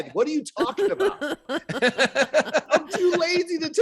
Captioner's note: laughing